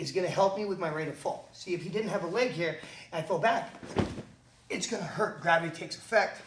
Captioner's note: thump